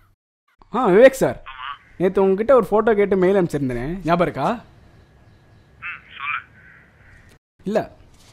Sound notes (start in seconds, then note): 5.5 voice over the phone